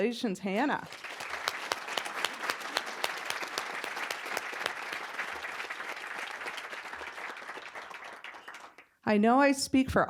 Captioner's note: applause